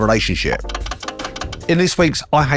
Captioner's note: titles cranking